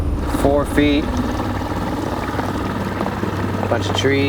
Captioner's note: outboard motor puttering